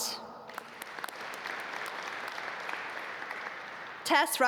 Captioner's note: audience applaud